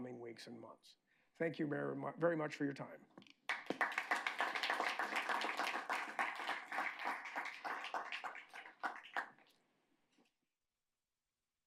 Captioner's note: applause